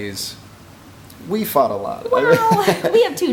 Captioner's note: laughs